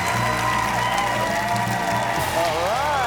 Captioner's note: audience continues cheering and applauding